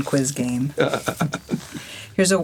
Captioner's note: laughs